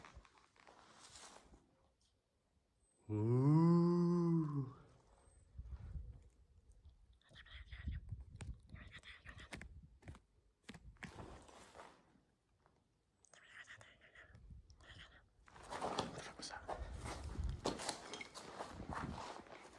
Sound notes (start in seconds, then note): 2.9 makes spooky noise; 7.3 impersonating spooky beings